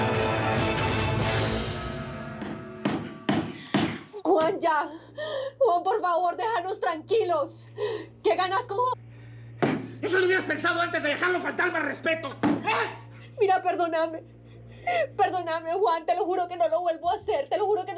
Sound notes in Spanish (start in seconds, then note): 4.1 martillazos